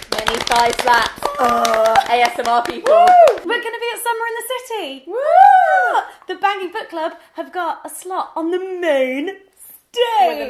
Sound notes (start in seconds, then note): 5.1 cheering